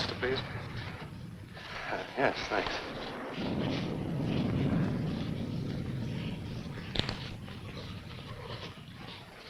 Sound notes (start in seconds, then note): 3.6 rain pattering; 3.6 thunder rumbling